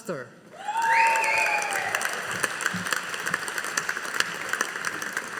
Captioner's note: audience applauding